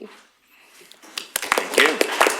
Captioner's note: applause